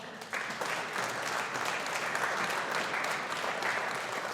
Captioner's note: audience applauding